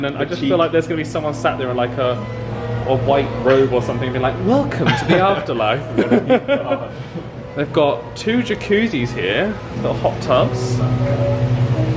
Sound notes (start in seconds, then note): 4.8 laughs